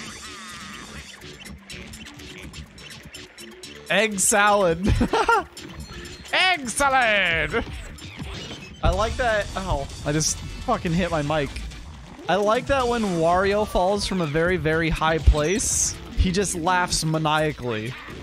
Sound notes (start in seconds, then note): 4.7 laugh